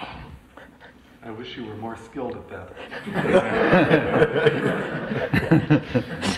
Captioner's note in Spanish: Risas